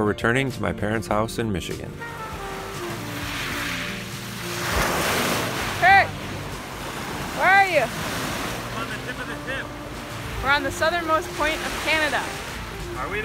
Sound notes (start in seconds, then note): 2.2 light music; 2.2 waves crashing